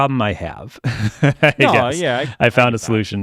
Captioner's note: laughing